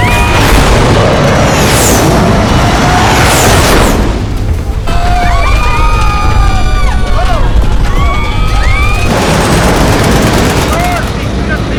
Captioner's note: shooting